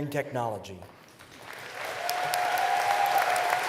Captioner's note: applause